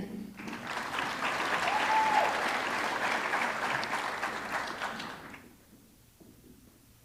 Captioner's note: audience clapping; audience cheering